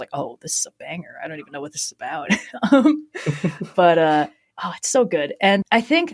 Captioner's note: laughs